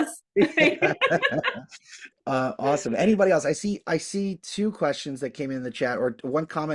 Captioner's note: laughs